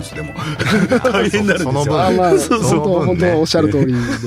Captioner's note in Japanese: 笑い